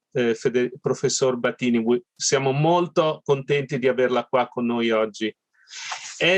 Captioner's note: speaking Italian